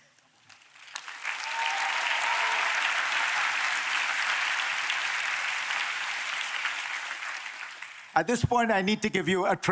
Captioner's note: applause